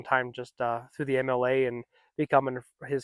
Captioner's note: none